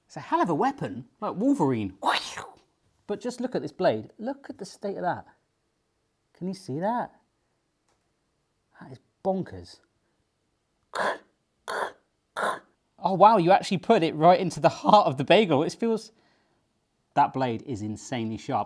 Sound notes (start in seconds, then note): 11.6 mimicks cutting noises